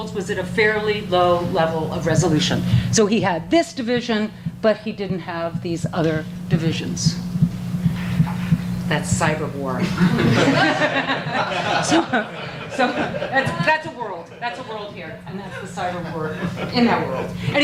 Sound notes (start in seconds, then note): 9.8 audience laughter